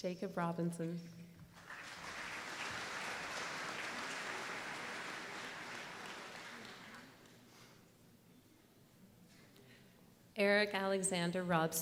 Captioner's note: applause